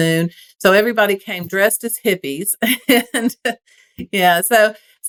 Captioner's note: laugh